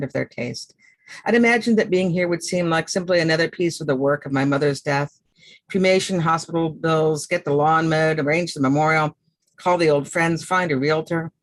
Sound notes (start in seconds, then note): none